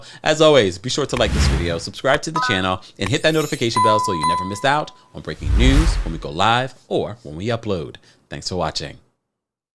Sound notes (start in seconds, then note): 3.1 bell dings; 3.2 bell chimes